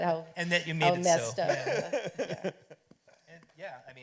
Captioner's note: laughter